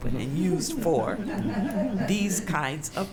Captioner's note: laughter